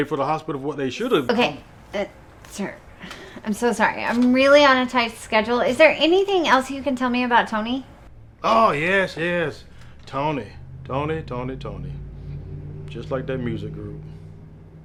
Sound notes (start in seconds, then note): none